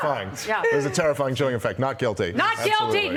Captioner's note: laughter